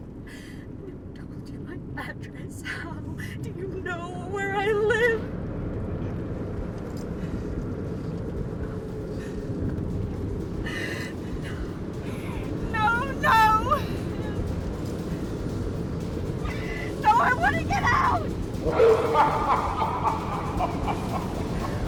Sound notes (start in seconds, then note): 0.2 gasping; 5.5 engine rumbling; 10.6 sobs; 18.6 driver chuckling maniacally